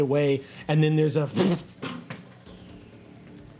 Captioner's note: thuds